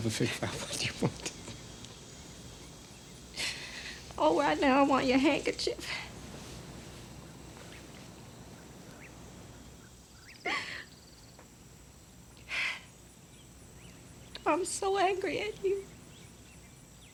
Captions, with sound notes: I-I could never figure out what you wanted. (both laughing) - Well, right now, I want your handkerchief. (Bess sobbing) I'm so angry at you.